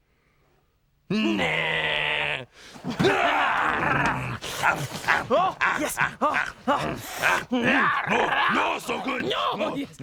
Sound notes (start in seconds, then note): 3.0 both growling hungrily; 5.6 slurping and grunting eagerly